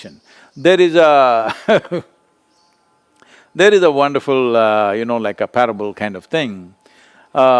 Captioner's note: laughs